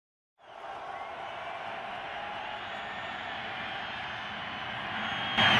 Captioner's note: cheering